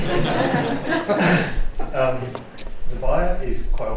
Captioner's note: laughs